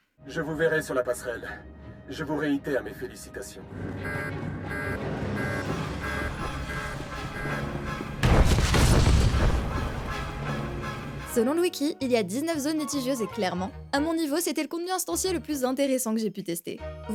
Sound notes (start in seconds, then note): 4.0 alarm and explosion sounds